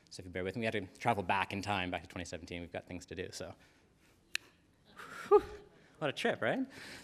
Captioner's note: snaps